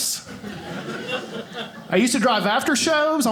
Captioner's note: audience laughing